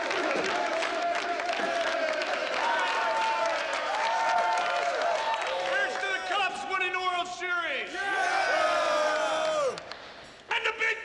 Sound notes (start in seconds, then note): 0.0 cheering